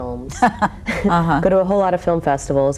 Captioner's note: laughing